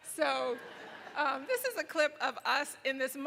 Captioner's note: laughing